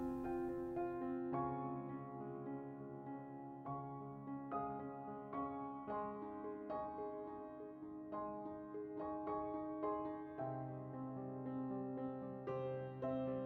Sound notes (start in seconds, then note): none